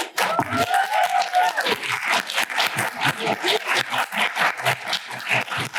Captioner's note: applause